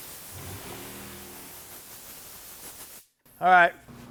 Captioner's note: air blowing